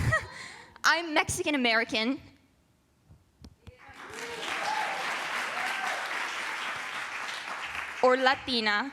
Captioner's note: applause